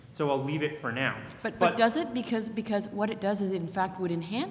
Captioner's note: voiceover